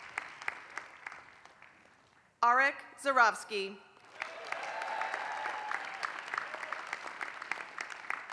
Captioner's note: applause; applause